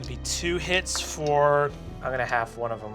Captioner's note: rolls dice